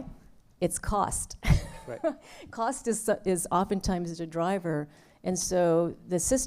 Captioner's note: laughter